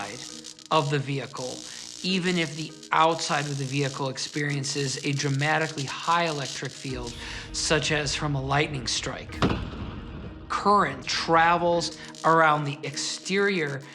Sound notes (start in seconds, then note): 9.1 lightning cracking